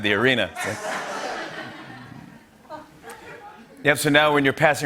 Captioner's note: laughter